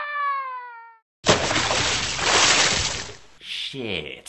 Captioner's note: splashing water